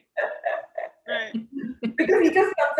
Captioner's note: laughter